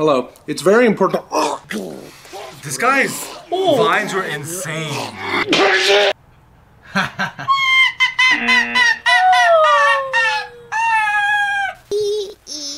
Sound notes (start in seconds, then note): 2.0 laughs; 6.9 laughs; 9.1 gags